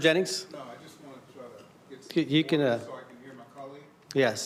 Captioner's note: crowd Noise